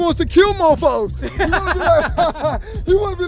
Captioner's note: laughing